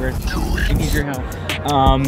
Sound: demonic Voice

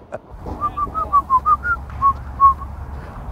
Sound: whistling

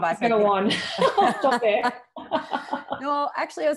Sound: both laughing

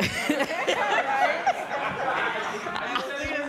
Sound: laughter

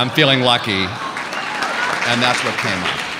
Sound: audience laughing

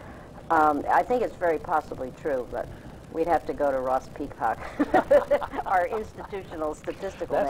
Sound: laughs

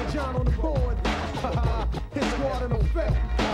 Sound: laughs

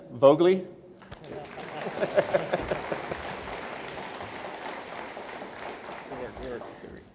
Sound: audience applauds; laugh

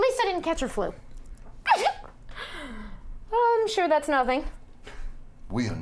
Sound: sneezes

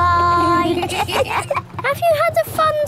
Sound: kids giggling

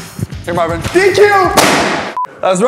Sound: pop!

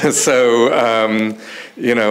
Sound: chuckles

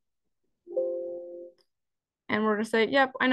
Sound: PC chimes

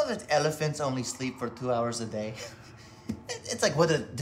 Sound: laughs

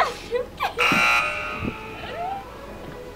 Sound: both laugh; buzzer

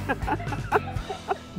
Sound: laughter

